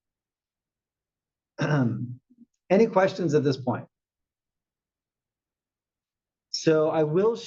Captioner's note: cough